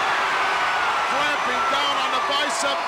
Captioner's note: crowd cheers